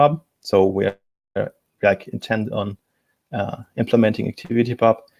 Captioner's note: distortion muffles speaker